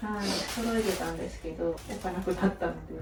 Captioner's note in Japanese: 鼻息